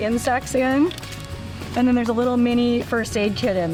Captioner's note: bag shuffling